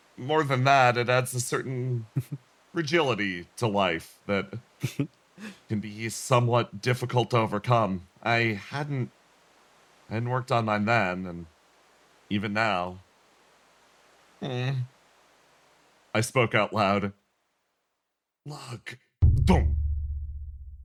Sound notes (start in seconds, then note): 19.2 thump